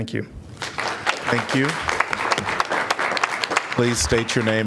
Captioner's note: applause